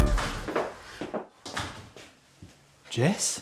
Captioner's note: door bangs